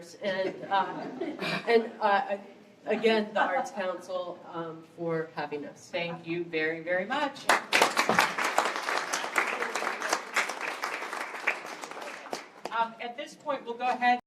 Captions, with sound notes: And again, the arts council, for having us. Thank you very, very much! (applause)